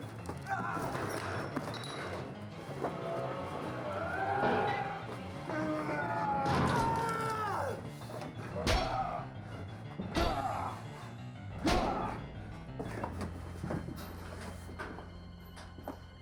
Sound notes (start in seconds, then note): 0.2 dramatic music; 0.2 screams; 8.6 dramatic music